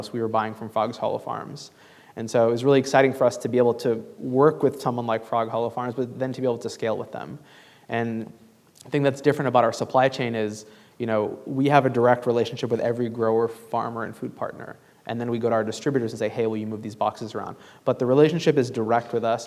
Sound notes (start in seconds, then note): none